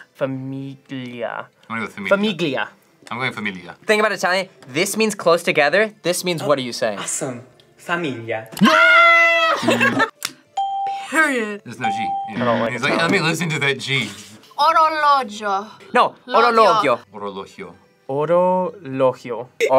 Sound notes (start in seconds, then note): 9.4 laughs; 9.6 buzzer rings; 11.8 bell rings